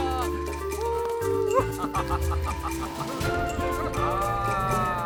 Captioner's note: everyone laughing